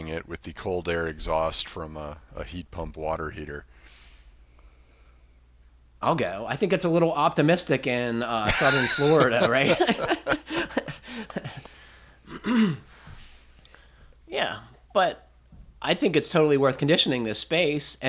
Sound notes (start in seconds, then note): 8.4 laughter